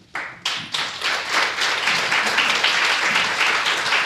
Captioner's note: applause